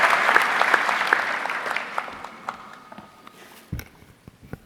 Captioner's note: audience clapping